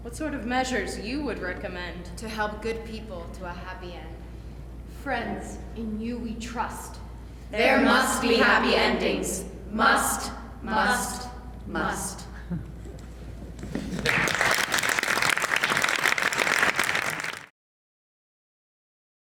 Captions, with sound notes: What sort of measures you would recommend to help good people to a happy end? Friends, in you we trust. There must be happy endings-- must, must, must. [APPLAUSE]